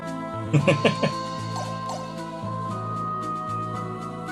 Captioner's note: laughs